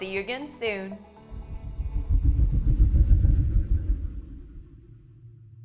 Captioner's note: wheel swooshing